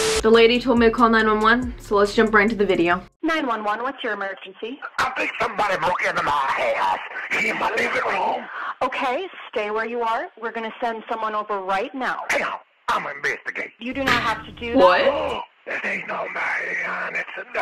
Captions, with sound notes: The lady told me to call 911so let's jump right into the video *laughs* what?